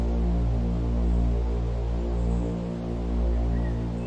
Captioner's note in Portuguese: Música de suspense; Sons ambiente de pássaros e vento